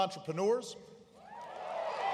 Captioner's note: applause